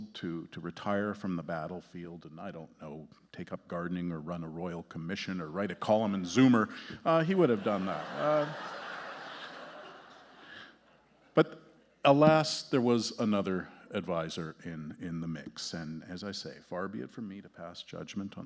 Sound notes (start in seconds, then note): 7.4 audience laughing